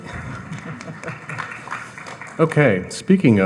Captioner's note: audience applauding